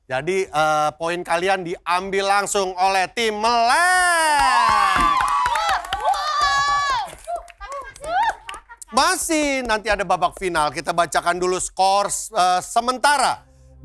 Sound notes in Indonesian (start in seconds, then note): 5.4 laugh-yell